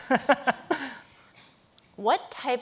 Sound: laughing

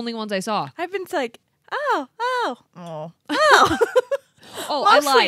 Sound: groans; laughs

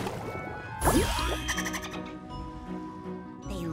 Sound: dolphins chattering

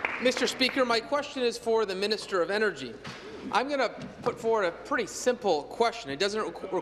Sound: applause

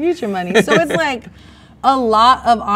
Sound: man laughs

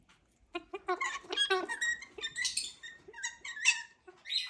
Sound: bird squawking

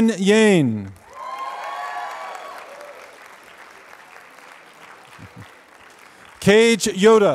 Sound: applause

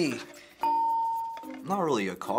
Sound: hitting bell; ding

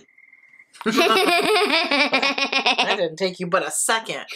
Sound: both laugh

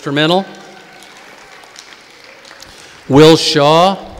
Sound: audience applauding

